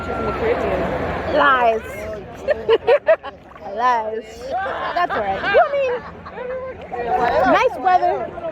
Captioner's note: laughter